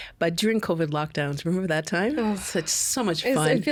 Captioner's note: groaning